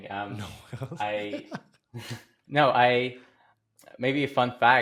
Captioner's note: laughs